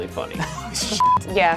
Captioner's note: laughing; beep